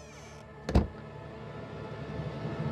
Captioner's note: Door closes